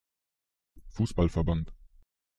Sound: fast Pronunciation

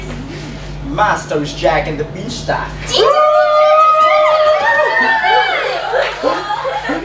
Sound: cheers

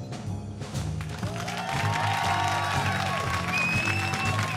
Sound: cheers and applause

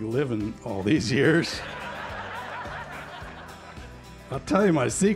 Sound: laughter

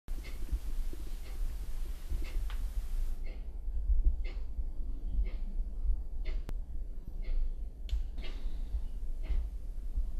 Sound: indistinct Ticking

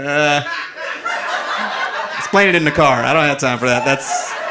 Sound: audience laughing

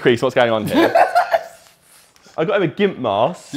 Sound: JJ laughing

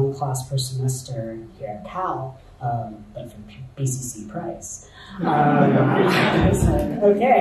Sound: audience laughter

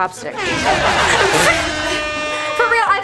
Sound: laughs; vuvuzela blasting

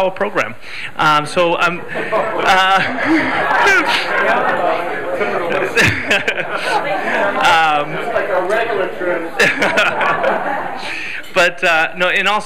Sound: laughter

